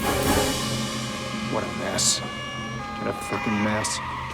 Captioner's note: siren Wailing; brakes Screeching